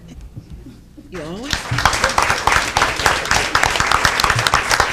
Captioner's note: audience applauding